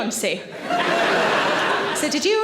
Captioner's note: audience laughing